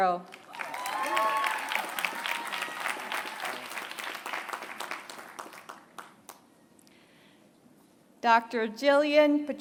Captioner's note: applause